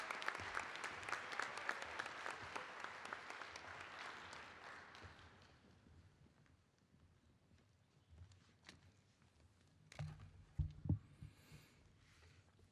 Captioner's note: applause